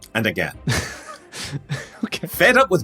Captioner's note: wheezes